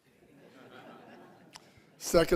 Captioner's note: audience laughing